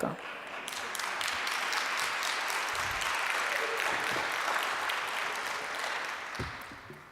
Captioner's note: applause